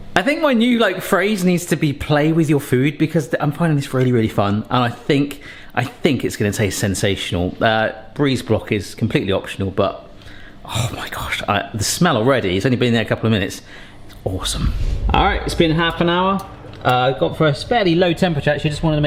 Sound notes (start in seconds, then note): none